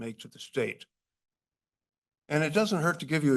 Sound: pause

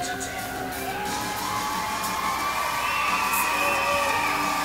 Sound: audience cheering

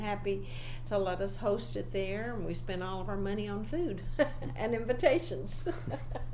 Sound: laughs

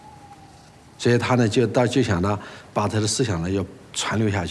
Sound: speaking Chinese

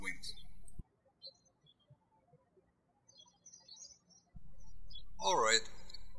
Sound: birds chirping

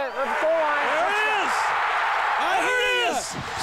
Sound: crowd cheering

